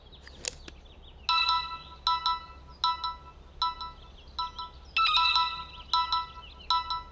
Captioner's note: Phone ringing